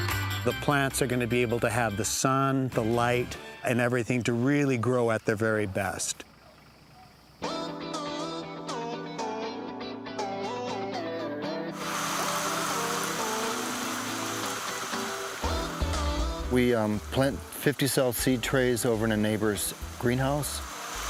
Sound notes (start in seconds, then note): 7.4 upbeat electronic music; 11.7 water spraying